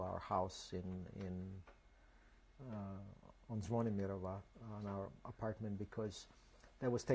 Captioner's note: non-english